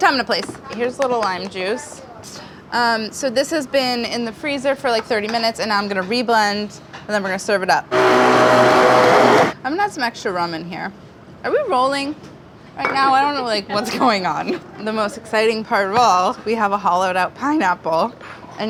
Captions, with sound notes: Time to place, here's little lime juice. So this has been in the freezer for like 30 minutes, and I'm gonna reblend, and then we're gonna serve it up. [blender grinding] I'm gonna add some extra rum in here. Are we rolling? Right now, I don't know like what's going on and the most exciting part of all, we have a hollowed out pineapple.